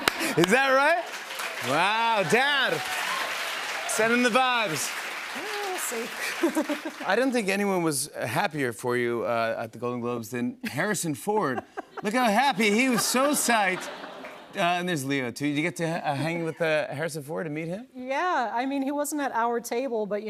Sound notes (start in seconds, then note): 0.0 laughter; 2.8 cheers and applause; 6.2 laughs